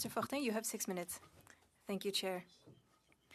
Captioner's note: speaking French